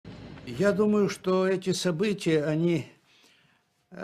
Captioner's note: non-english speech